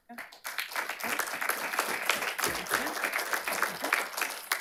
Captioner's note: audience applauding